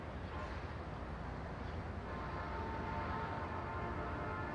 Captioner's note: horns honking